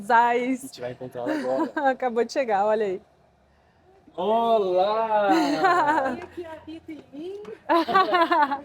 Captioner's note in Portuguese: risadas